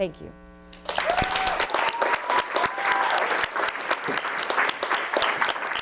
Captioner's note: audience applauds